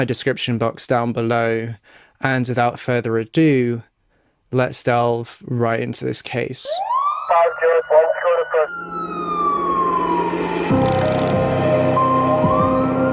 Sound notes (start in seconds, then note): 6.7 police siren noises